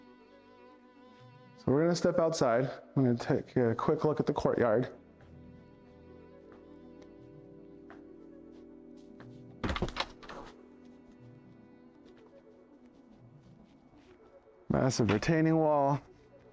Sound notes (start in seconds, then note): 7.9 door opens